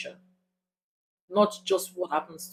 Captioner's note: paause